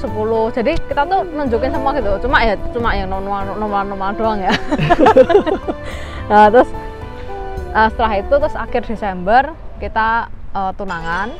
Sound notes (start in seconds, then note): 4.2 laughs